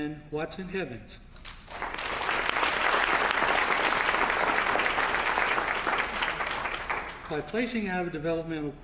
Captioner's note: applause